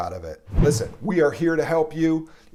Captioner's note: whooshing sound